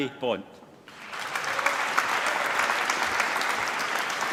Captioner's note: applause